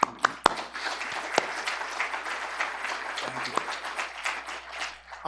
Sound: applause

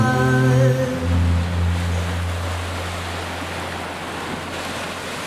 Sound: rushing winds

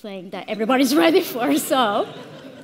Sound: all chuckling

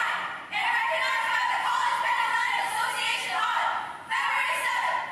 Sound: indistinct chanting

